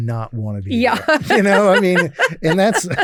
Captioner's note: laughs